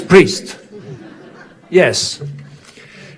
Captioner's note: audience laughing